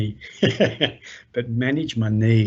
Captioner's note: chuckles